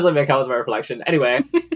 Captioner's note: laughs